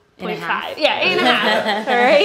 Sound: laughs

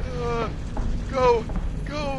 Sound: groans

